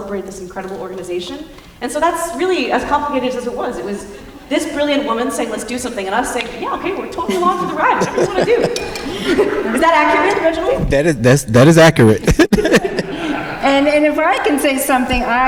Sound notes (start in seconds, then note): 7.2 laughter; 10.9 chuckles